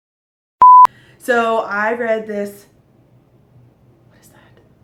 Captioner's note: whisper